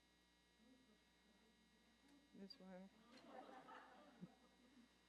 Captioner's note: laughter